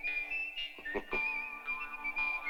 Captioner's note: chuckling